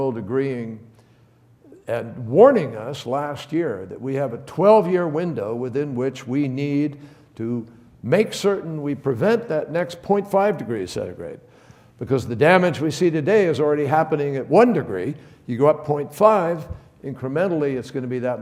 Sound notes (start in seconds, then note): none